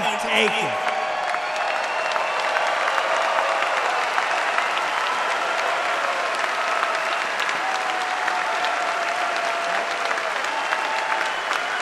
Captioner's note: applause